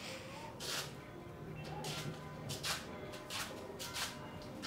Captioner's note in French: cloche d'église